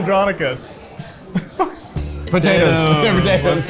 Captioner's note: laughs